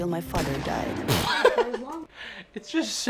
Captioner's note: laughing